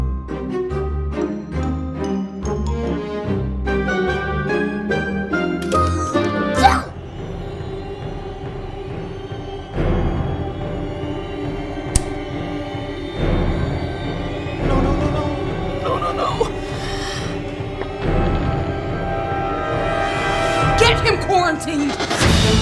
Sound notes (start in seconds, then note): 0.1 lighthearted music; 5.7 child sneezing; 8.2 suspenseful music